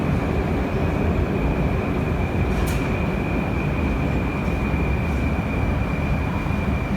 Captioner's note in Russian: прибытие другого поезда на станцию